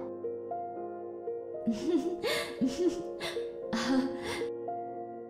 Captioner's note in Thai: เสียงหัวเราะ